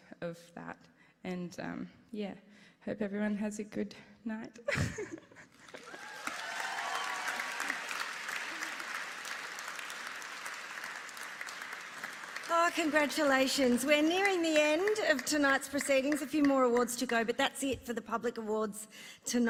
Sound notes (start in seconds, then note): 5.4 laughs; 9.4 applause